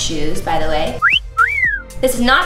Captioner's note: whistles